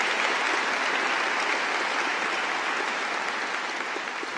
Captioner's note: cheering